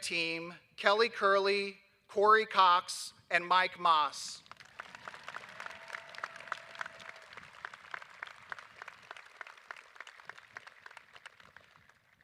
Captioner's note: applause